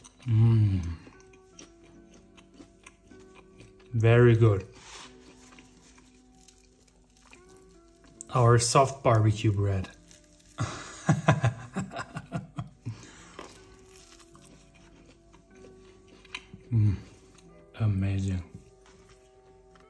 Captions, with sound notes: Hmm Very good. Our soft barbecue bread. (laughs) Hmm, amazing.